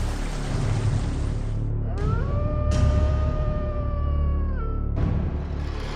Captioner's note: wolf howling